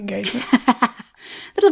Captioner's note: laughing